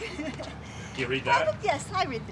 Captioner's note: chuckling